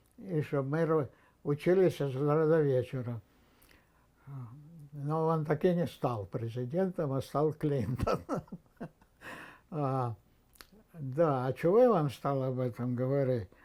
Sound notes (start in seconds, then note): 7.8 laughing